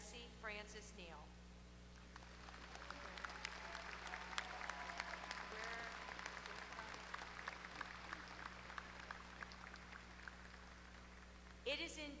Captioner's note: applause